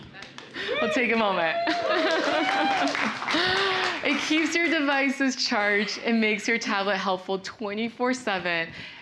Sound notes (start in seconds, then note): 0.5 crowd cheering